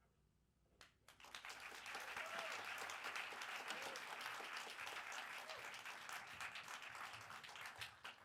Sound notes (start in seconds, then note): 1.1 audience applauds